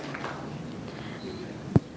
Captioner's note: applause